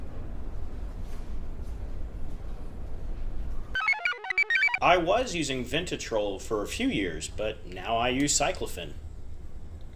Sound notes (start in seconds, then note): 3.7 computer chirps